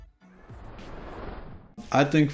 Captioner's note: airplane taking off